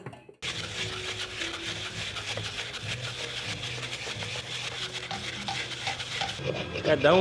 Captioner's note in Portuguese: Madeira sendo raspada